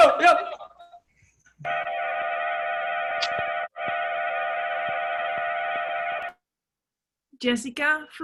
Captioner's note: cheering